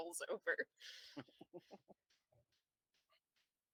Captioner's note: chuckles under his breath